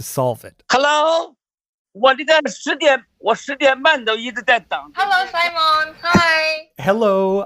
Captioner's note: speaking Mandarin